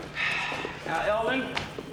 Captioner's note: Nash sighs